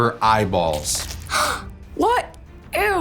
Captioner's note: eyeballs gouging; Juice Boxer 2 gasping